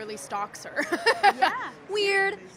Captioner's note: laughter